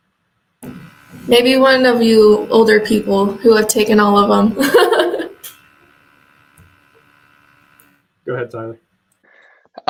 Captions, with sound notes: >> Maybe one of you older people who have taken all of them. [laughs] >> Go ahead, Tyler.